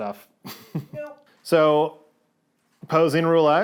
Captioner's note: chuckles